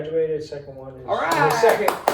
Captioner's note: claps